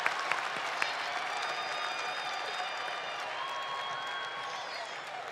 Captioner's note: cheers and applause